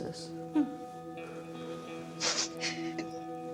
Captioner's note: Beverly crying softly